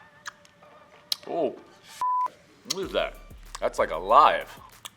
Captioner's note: beep